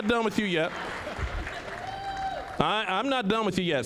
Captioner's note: audience chuckling